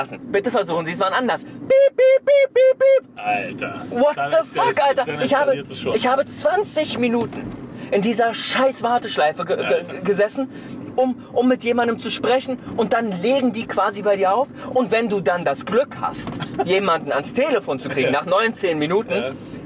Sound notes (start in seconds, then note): 1.6 beeping sound